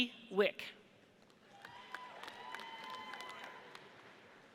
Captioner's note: audience cheers